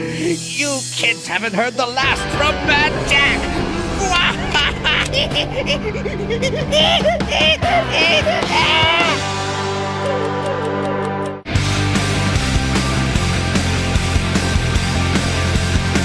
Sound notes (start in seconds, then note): 4.1 monkey noises